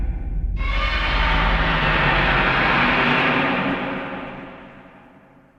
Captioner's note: distant roar